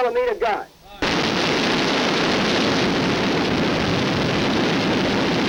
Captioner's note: gunshots booming